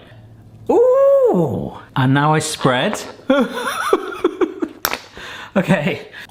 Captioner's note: laughs